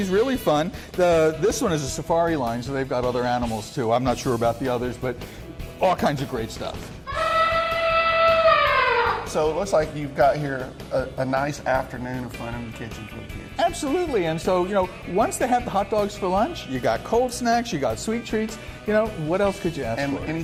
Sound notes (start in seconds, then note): 7.0 elephant noise